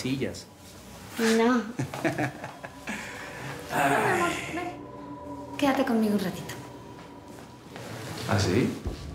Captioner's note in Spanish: risas de él